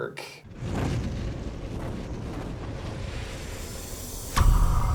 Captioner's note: logo whooshing